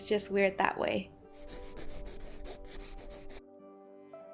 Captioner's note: pencil writing noise